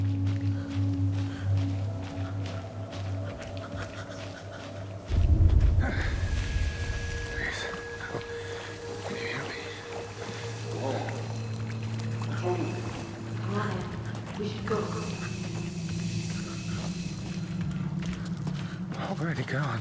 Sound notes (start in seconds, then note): 0.0 panting; 5.1 gasping; 6.3 dramatic music